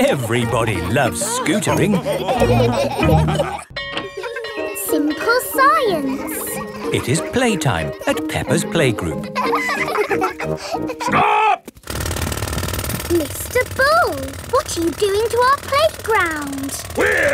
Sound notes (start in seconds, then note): 2.9 all laughing; 3.1 bell tolling; 3.6 children laughing; 9.6 children laughing